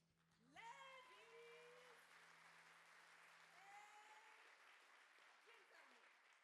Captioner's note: audience applaud